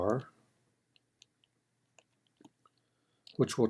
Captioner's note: typing